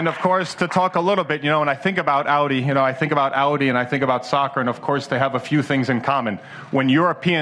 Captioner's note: applause